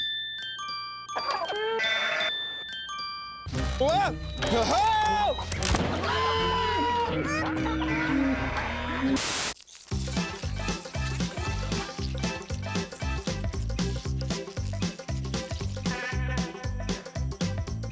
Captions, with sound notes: WHOA! WHOA-HO! [ ANIMAL NOISES ] [ BUZZING ]